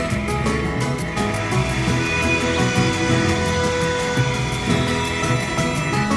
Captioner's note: transporter system engages